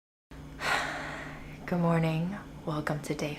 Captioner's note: sighs